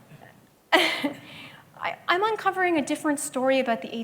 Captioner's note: laughs